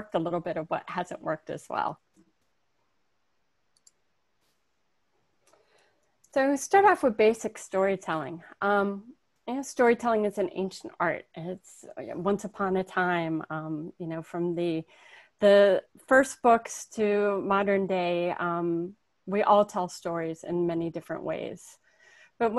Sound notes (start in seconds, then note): 3.7 mouse clicking